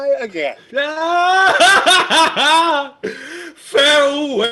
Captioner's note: laughing